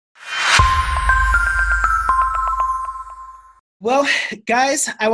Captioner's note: chiming